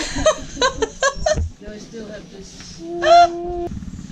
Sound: laughs

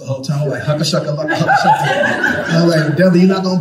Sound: speaking in tongues

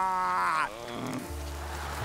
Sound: James groans

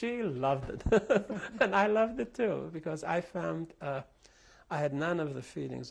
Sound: laughter

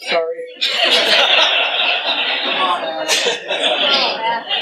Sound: laughter

